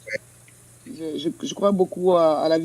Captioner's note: speaks in French